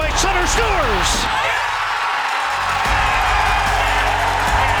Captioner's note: crowd cheers